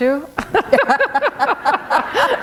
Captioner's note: laughter